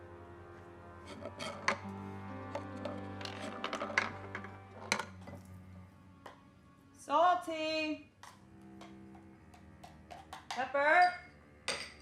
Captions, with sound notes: (marble rattling) - Salty! (somber violin music) Pepper!